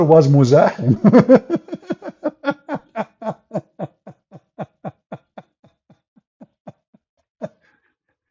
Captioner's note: Ketawa